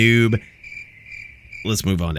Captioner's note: crickets